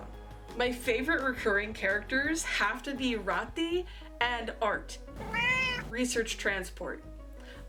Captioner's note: meow